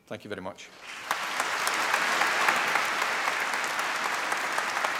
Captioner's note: applause